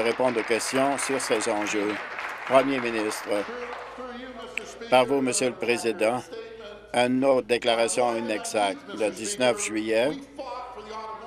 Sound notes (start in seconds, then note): 4.2 applause